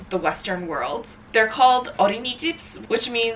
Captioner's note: speaking in foreign language